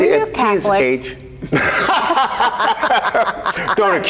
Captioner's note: group laughter